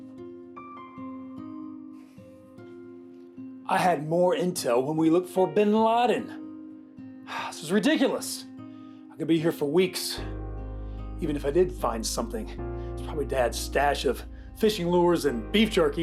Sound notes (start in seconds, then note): 6.8 sighs